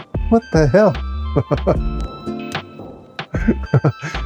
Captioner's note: laughs